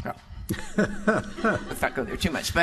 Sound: laughing

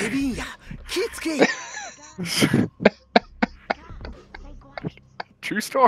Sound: both laugh

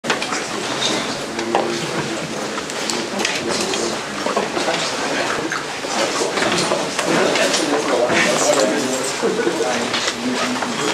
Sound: background chatter

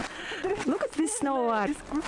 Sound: laugh

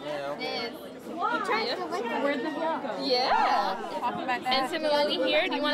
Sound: crowd noises

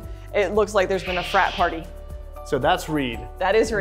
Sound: Reed squawks

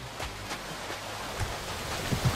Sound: waterfall sound; steps

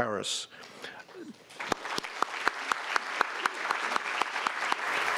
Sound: audience applauding

